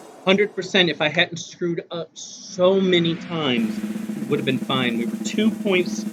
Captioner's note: groan